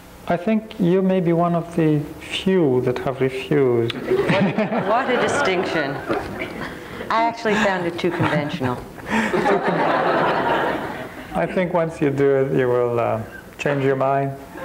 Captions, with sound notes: I think you may be one of the few that have refused. (crowd laughs) - What a distinction. I actually found it too conventional. (crowd laughs) - I think once you do it you will change your mind.